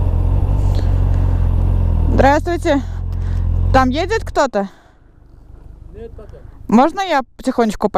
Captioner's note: in Russian